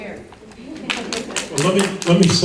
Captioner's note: audience member clapping